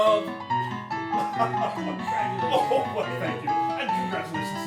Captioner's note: chuckles